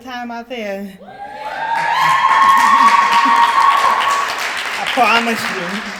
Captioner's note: crowd yelling and clapping